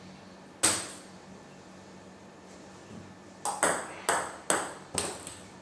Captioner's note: balls ping pong hitting continues